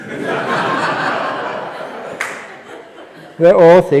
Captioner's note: laughter